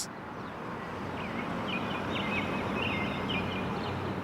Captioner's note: birds chirping